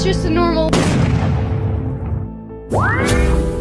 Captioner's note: explosion; mystical sound